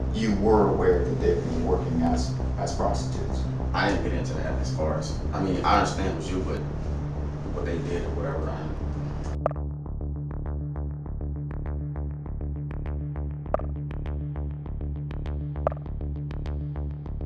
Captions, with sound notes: You were aware that they would be working as prostitutes? - I didn't get into that as far as, I mean, I understand it was you, but what they did, or whatever, I didn't. (suspenseful music) (messages clicking)